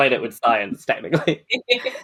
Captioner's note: laughs